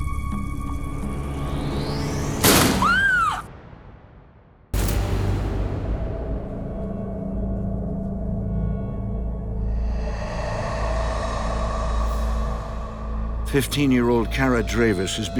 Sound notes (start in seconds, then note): 2.4 door slams; 2.7 Kara screams; 4.7 ominous music